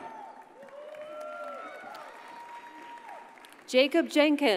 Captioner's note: audience cheers and applauds